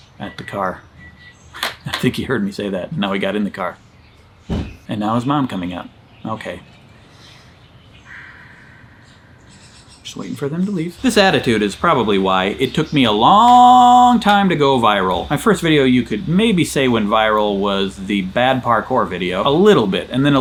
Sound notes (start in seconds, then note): 0.1 car beeping; 4.4 door slamming; 8.8 birds chirping